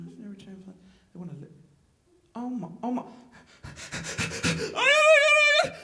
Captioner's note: hyper ventilating